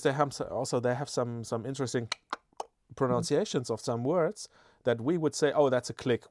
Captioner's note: clicks his tongue